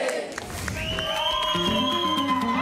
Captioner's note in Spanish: Gritos